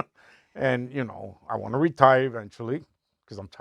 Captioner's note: laughing